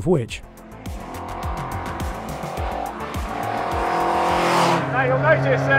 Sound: car engine revs

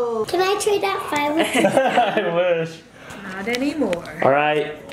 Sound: laughs

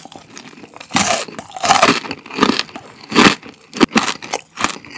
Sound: crunchy

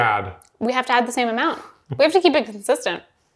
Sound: chuckling

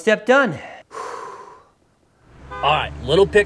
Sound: man sighs

